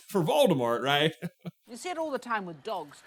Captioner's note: chuckle